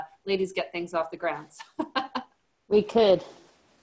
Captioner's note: laughs